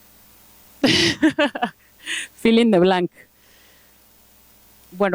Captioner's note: laughs